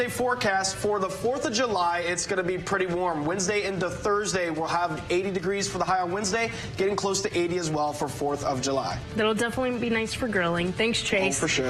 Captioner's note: liquid bubbling